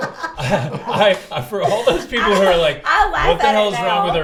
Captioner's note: laugh; laughs